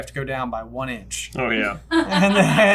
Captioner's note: laughter